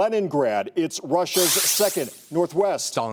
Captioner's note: buzzer